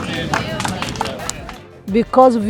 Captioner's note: crowd clapping gently